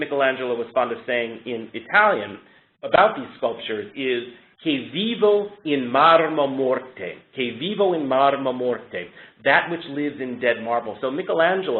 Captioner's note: speaking Italian